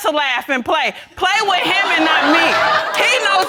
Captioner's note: audience laughing